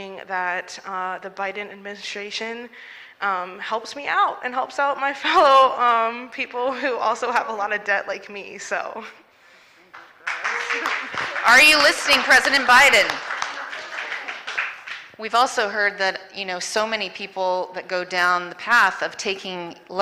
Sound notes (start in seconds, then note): 14.1 applause